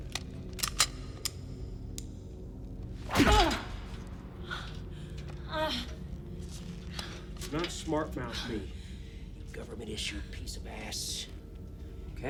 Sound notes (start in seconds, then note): 0.0 gun clicking; 3.1 punch thud; 3.3 Kelly groans